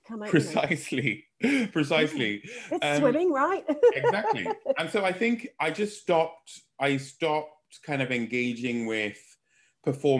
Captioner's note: laughing